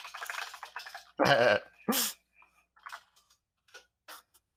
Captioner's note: laughs